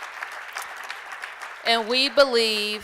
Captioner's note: applause